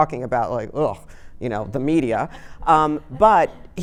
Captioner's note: audience laughing